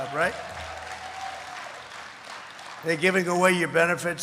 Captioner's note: applause